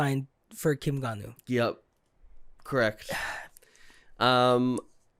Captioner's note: sigh